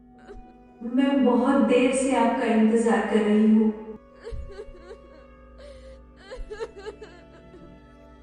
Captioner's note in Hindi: रोने की आवाज़; रोने की आवाज़